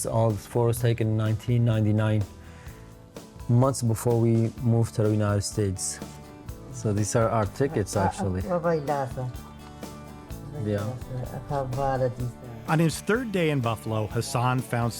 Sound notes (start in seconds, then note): 6.0 speaking foreign language